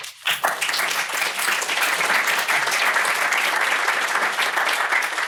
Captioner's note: applause